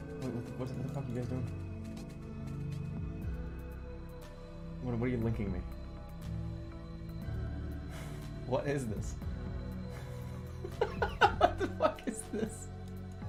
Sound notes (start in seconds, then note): 7.8 snickers; 10.7 laughing